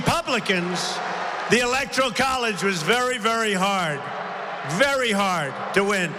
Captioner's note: applause